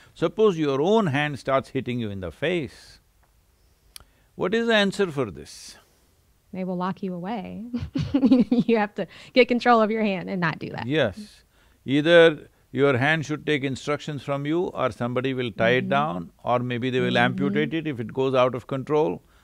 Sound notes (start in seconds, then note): 8.7 laughs